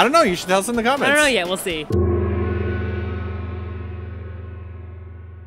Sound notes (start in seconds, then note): 1.8 gong!